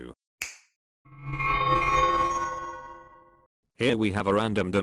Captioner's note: a snap and magic sounds